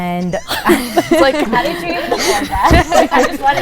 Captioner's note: laughing